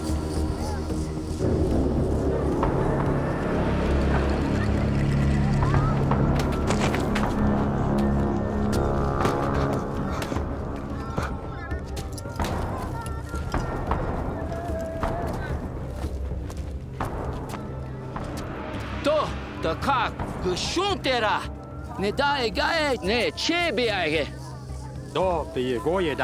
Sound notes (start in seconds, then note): 0.1 tense music; 6.8 thud; 9.0 tense music; 19.5 speaking native language